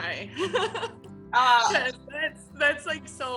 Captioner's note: owner chuckling